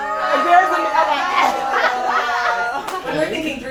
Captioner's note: collective Ohhhh